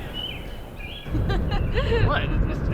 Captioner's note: Madison laughing